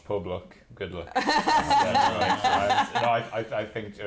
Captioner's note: speaking welsh